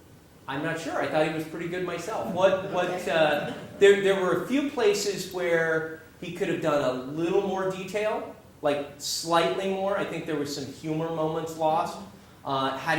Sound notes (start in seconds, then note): 2.1 laugh